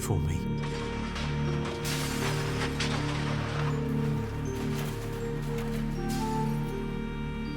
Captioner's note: crashes and shuffling